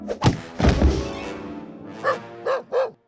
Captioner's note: barking